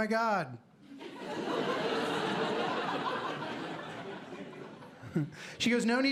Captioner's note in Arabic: ضحك